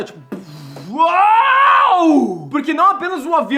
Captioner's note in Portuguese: gritando